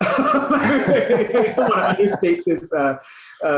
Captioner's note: laughs